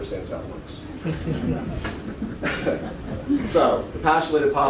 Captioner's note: laughter